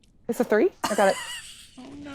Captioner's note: laughing